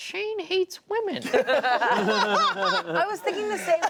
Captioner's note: laughter